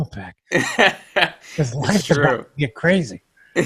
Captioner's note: laughs